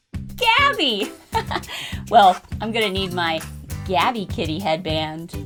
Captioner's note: laughs